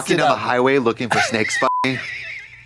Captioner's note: beep